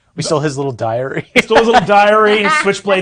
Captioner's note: laughing